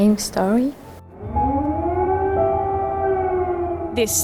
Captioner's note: air raid siren blares